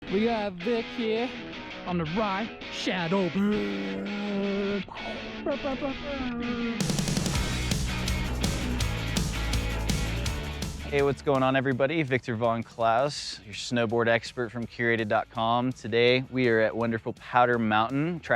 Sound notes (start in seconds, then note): 4.9 mock explosion sounds; 6.8 exciting music